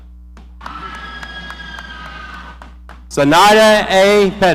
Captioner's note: audience cheering